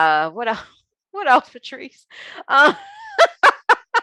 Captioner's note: laughing